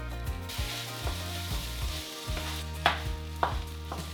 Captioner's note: stirring and sizzling